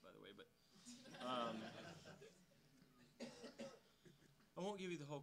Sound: audience laughing

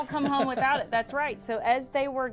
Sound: laughs

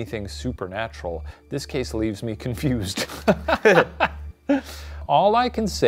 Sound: laughs

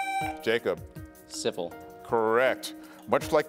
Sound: buzzer beeps

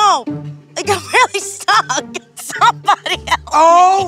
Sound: quirky music; laughing

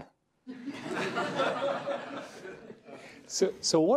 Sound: laughter

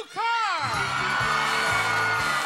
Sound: screams excitedly; upbeat music

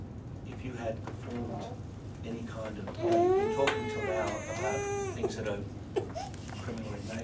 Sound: baby sounds

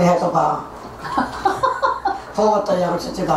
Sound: laughing

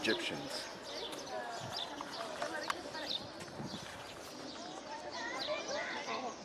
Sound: birds chirping; tourists chatting

